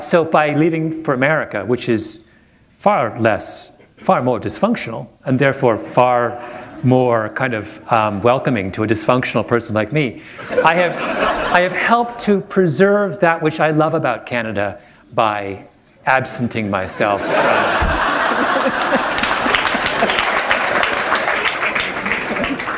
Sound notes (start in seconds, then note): 10.5 laughter; 18.0 applause